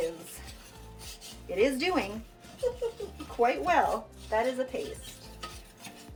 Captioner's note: laughs